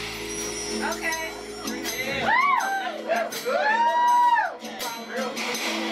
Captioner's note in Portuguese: multidão aplaudindo e conversando